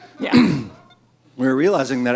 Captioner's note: clears throat